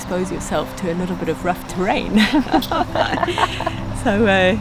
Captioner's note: laughs